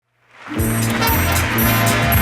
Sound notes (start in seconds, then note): 0.1 audience applauding; 0.5 upbeat music